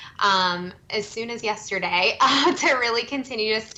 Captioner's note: chuckles